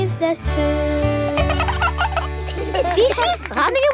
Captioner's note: both laugh